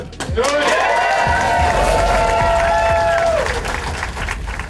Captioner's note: crowd clapping and cheering